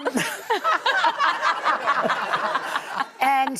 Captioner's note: audience laughing